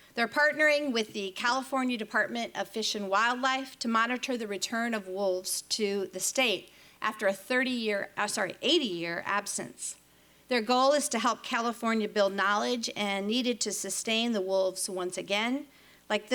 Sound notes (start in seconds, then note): none